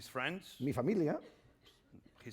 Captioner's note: speaking spanish